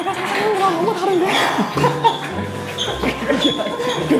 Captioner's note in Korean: 헛웃음